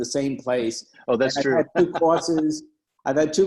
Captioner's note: laughing